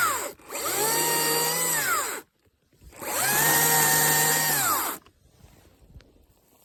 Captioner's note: sawing sounds